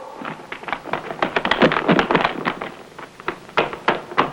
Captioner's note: feet clattering